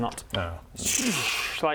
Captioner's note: tssrsrhcch